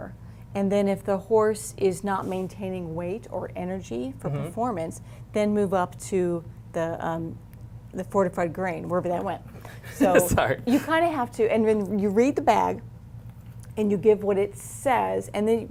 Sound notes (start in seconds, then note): 9.7 laughs